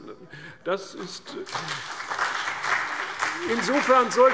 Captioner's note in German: Beifall CDU und BÜNDNIS 90/DIE GRÜNEN